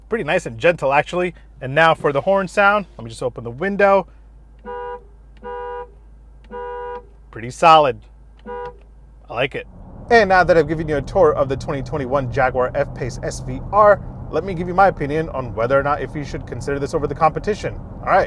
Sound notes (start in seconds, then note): 4.7 car honking; 8.4 car honks